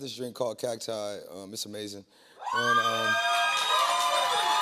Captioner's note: cheers and applause